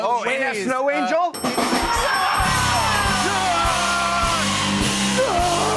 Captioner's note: cheers and applause